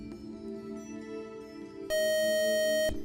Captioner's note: buzzer